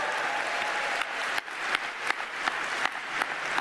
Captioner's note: cheers and applause